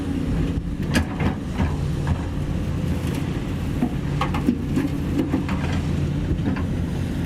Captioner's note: engine Rev